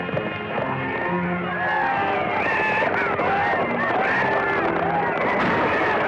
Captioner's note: shouting; gunshots